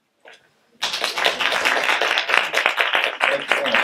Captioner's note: audience clapping